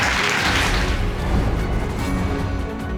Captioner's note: audience applauding